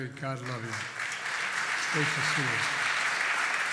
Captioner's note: applause